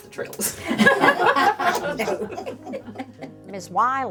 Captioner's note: laughing